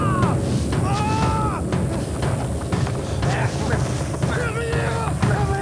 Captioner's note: yells; groans